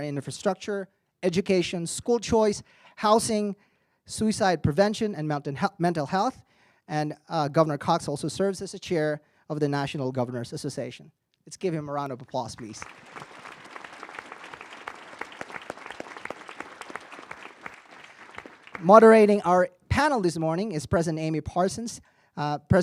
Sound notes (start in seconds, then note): 12.6 audience applauding